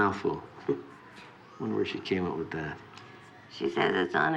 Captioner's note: chuckles